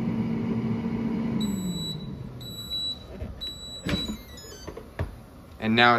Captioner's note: beeping